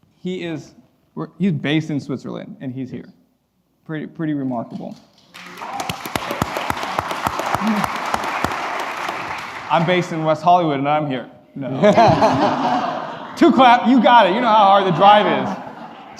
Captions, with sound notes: He is based in Switzerland and he's here. Pretty remarkable. (applause) I'm based in West Hollywood and I'm here. (laughing) Two claps, you got it, you know how hard the drive is.